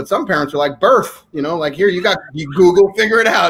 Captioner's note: laughing